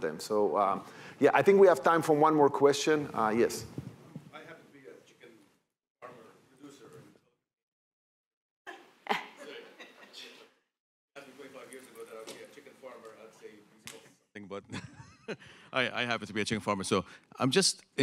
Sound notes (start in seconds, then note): 9.0 laughing; 14.6 chuckling